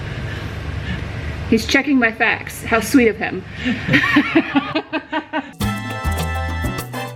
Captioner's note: laughs; latin music